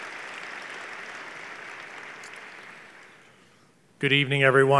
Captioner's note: applause